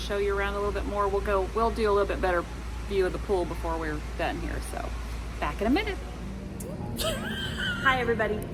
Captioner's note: giggles